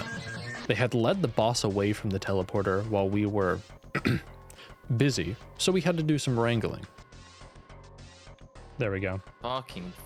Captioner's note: ahem